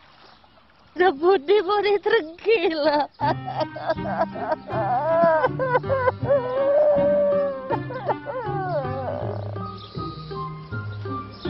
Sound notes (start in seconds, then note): 2.7 cries